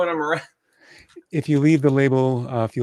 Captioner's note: laughing